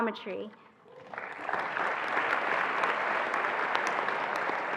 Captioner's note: attendees applauding